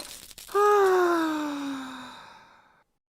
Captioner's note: Zayden sighs in anguish